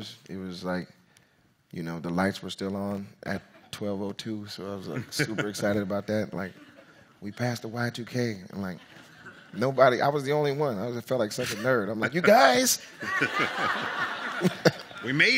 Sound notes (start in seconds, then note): 13.1 audience laughs; 14.5 laughs